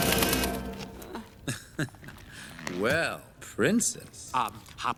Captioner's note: chuckles